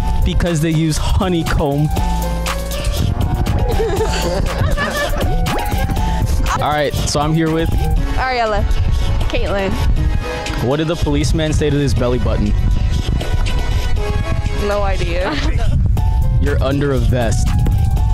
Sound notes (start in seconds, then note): 15.2 laughing